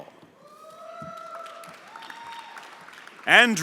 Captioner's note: everyone applauding and cheering